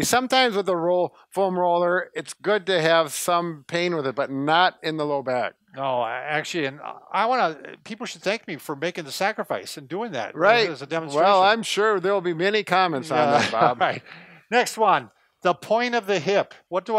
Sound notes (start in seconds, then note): 12.9 laughs